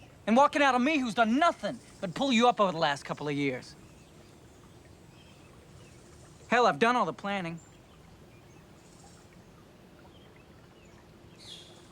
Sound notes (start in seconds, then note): 8.6 bird chirping